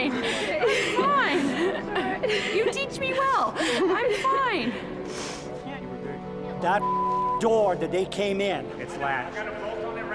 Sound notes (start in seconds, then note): 5.0 sniffles